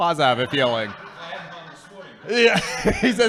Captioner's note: laughing